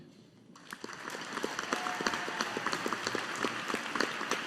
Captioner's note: audience applauding